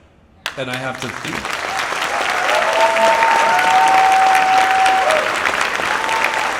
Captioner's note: audience applauds and cheers